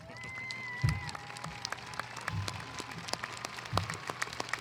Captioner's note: audience applauding